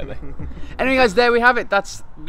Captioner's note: laughter